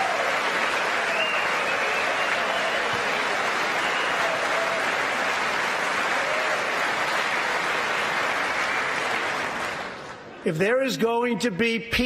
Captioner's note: applause